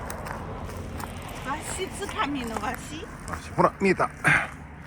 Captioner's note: laughs